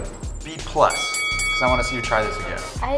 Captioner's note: bell ringing